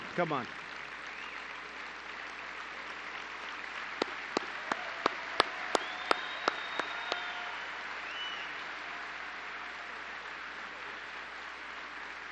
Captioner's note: applause